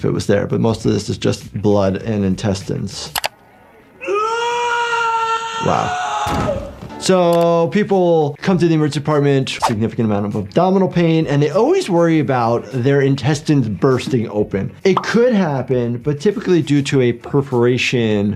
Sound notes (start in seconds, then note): 3.9 Termite screams